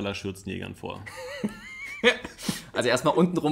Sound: laughs

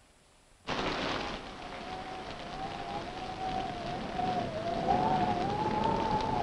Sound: thunder rumbling; wind howling

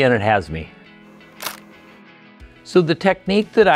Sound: camera shutter clicks

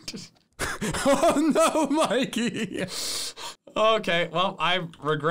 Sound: laughs

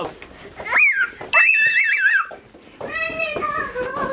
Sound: squealing

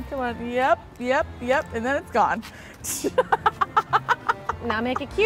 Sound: laughs

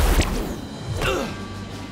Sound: grunting

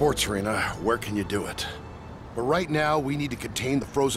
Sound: none

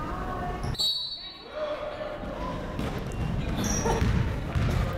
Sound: whistle blowing

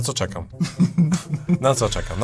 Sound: laughter through tears

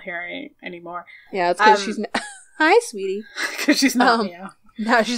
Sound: laughs

